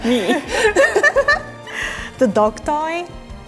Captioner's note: both laughing